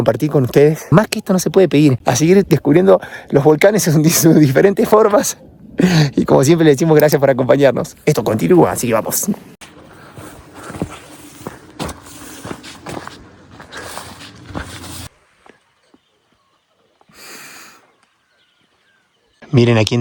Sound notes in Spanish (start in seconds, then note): 17.1 resoplido